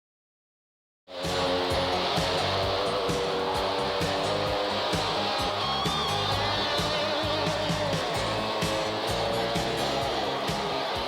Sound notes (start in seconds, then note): 1.1 rock music; 1.1 crowd cheering